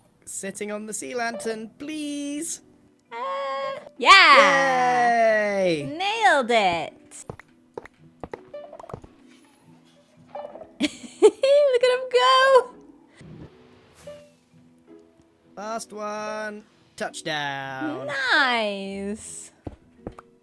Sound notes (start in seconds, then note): 10.8 laughs